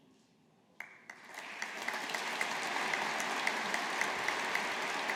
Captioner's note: audience applauding